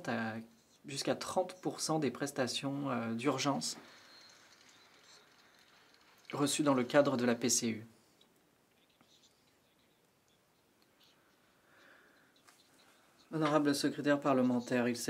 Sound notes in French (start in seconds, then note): 5.6 voix de l'interprète